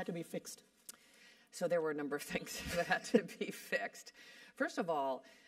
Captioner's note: laugh